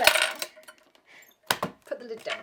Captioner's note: clanks